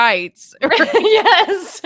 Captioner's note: chuckles